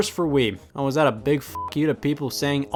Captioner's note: beep